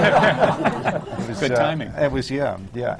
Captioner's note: laughter